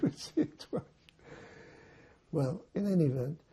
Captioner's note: laughing